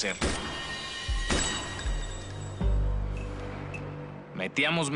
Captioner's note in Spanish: Disparos